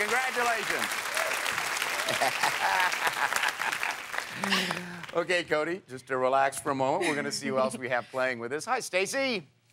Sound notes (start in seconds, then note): 2.0 laughs